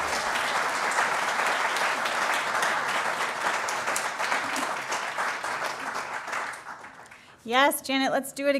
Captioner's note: applause